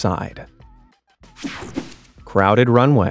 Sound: screen whooshing

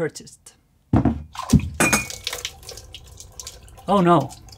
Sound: coffee spills everywhere

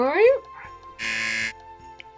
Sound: buzzer

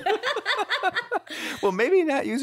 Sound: both laughing

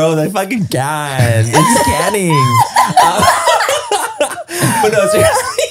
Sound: everyone laughs

